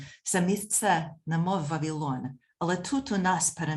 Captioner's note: speaking ukrainian